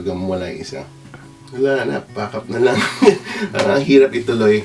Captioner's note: laughs